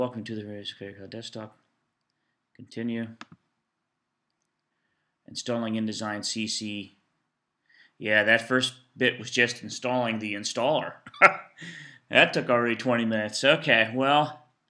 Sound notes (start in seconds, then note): 11.0 laughs